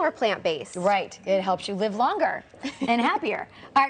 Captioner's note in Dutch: laughs